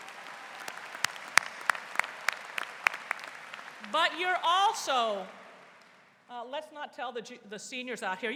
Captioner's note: �applause�